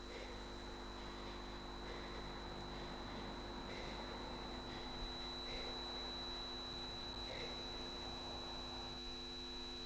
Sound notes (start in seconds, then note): 2.0 high-pitched tone ringing; 2.0 viewer breathing